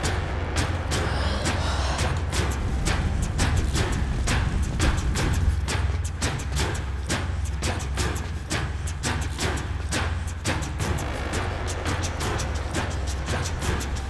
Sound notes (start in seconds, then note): 0.9 taking a deep breath